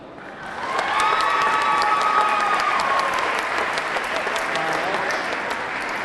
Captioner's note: audience clapping; audience cheering